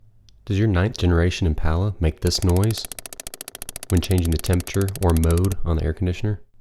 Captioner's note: ticking noise